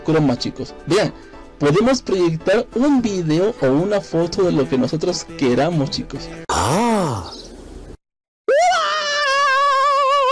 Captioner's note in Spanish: Mario Bros: Grito genial